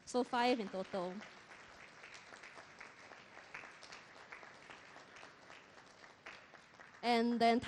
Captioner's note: applause